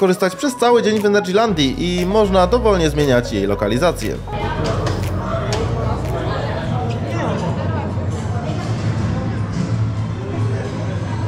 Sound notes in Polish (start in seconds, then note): 4.2 odgłosy samochodu